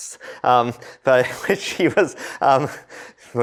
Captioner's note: laughter